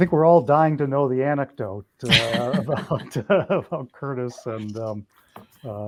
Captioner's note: laughing